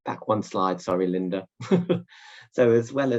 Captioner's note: laughing